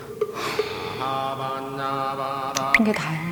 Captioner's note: sigh